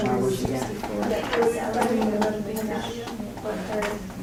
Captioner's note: background chatter